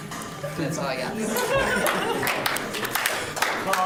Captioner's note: laughing; applause